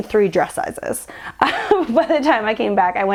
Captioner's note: laughing